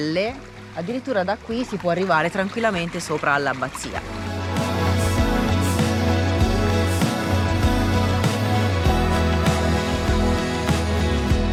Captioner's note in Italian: Applauso